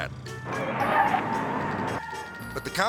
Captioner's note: tires screeching